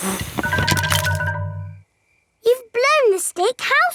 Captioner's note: blowing